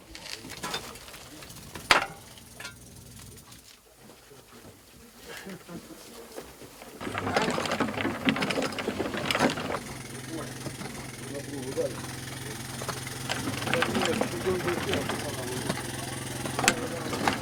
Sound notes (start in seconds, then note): 6.8 clanking on conveyor; 10.4 machinery humming